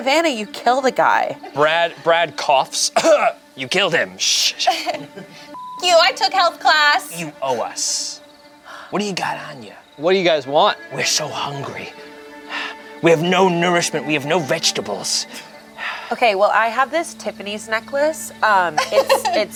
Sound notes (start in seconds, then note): 2.9 coughs; 5.5 beeps